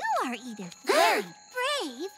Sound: gasping

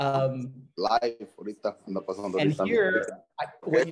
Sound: chatter continues

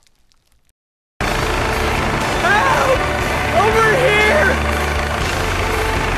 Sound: helicopter heard from above

